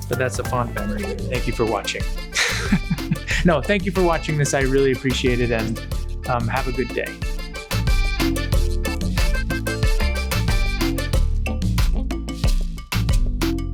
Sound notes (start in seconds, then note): 2.3 laughs